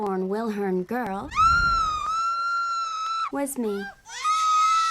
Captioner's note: mother screams